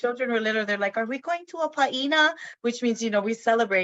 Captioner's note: speaks in foreign language